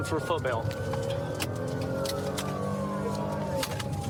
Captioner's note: siren blaring